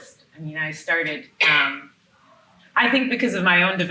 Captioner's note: attendee coughing